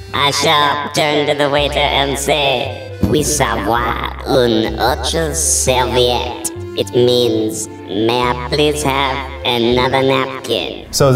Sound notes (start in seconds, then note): 3.1 speaks in foreign language